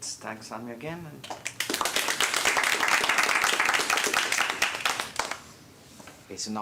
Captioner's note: audience applauding